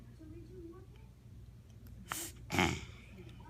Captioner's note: sniffs and clears throat